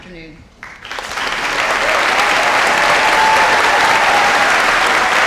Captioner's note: audience applauding